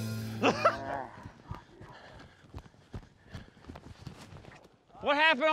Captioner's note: mooing